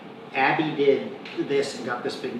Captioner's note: none